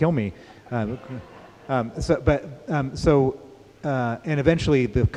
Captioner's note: laughter